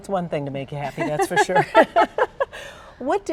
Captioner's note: laughing